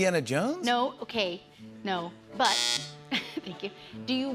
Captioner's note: buzzer